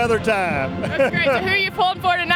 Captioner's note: laughs